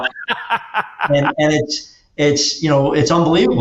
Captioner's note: laughs